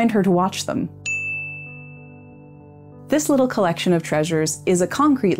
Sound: bell sound

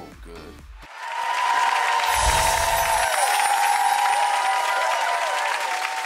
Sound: audience claps and cheers

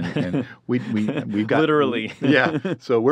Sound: laughs

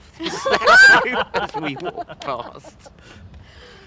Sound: all roar with laughter

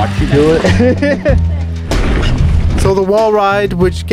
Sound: laughing

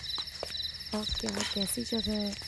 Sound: footsteps

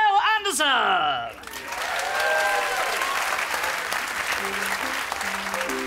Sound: applause

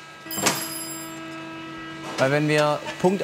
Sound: clanking, machine whirring

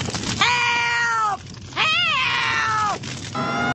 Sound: fire truck sirens

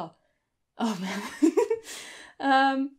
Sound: nervous laughing

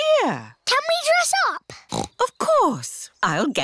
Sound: snorts

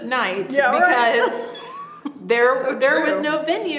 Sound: laughs

